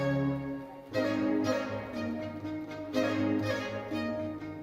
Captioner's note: lively uplifting music continues; audience cheering